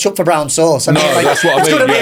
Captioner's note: laughing